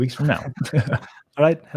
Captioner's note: both laughing